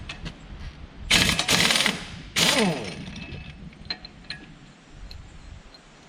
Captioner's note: impact wrench whirring